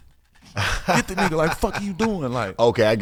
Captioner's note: laughing